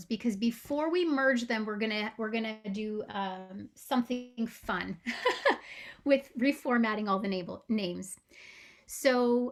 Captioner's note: laughing